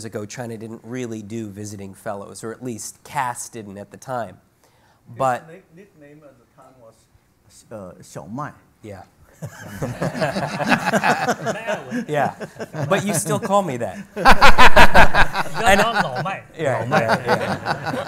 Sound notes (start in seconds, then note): 6.5 speaks Chinese; 9.4 group laughs; 14.3 laughing, speaking Chinese